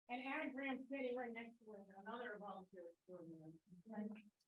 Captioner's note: people chattering